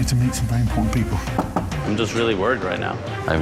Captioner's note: knocks on door